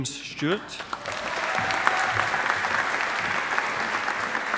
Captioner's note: audience applauding